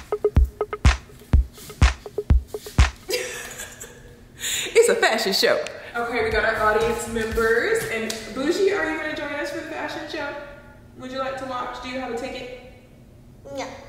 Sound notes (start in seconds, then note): 0.0 upbeat music; 3.1 laughing